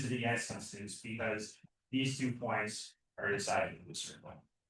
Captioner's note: speaks faintly